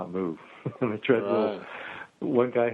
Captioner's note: laughs